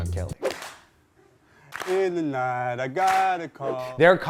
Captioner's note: audience clapping